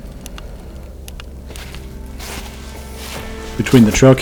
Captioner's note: sound of walking